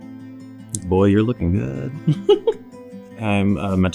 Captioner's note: laughs